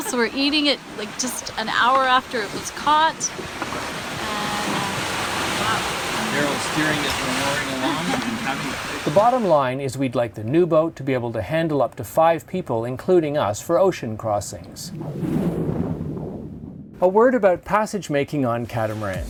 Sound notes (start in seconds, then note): 3.7 water whooshing; 7.7 laughter